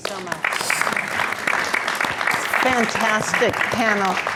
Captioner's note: audience applauding